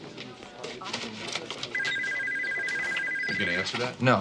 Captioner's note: ring